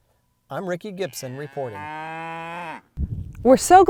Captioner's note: imitating mooing cows; cow mooing